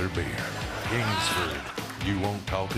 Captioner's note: laughter and whistling